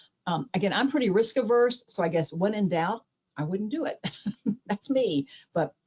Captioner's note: chuckles